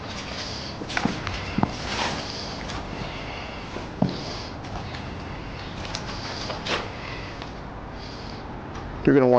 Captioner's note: birds and footsteps; footsteps and heavy breathing